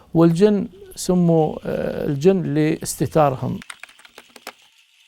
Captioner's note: in Arabic